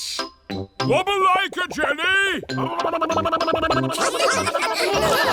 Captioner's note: vocalizing; all laughing and vocalizing